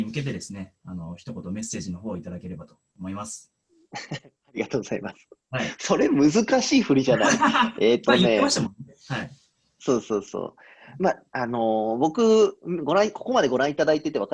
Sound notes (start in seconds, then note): 11.3 laughs